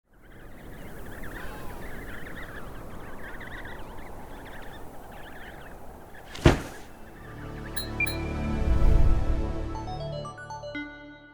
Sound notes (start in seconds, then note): 0.0 wind blowing; 0.3 baby penguins chirping; 6.3 loud thud; 6.3 musical drone; 7.8 metallic "blink" sound effect; 7.8 short uptempo melody; 8.3 whoosh